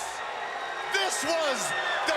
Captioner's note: crowd cheering